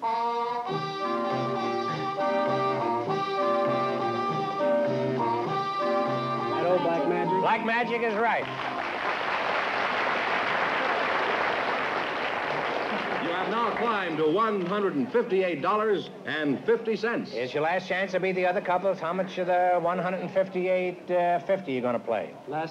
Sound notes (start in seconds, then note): 8.2 applause